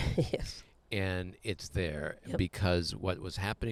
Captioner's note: laughs